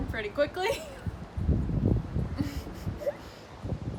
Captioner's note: chuckling